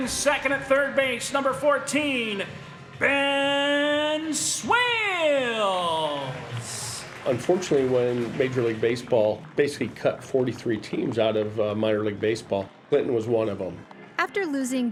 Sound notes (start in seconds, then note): 6.6 applause